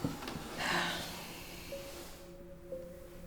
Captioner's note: sighs